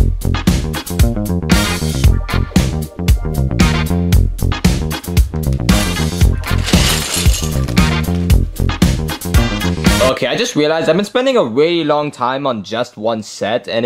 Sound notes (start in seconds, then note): 6.1 upbeat music continues; 6.4 Legos clanking; 8.2 upbeat music